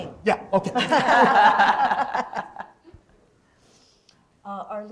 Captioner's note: laughter